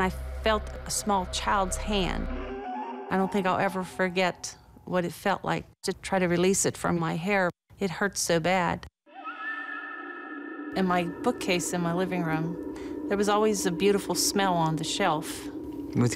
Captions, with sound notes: and I felt a small child's hand. [eerie sound] I don't think I'll ever forget what it felt like to try to release it from my hair. It hurt so bad. [haunting music] And my bookcase in my living room-- there was always a beautiful smell on the shelf.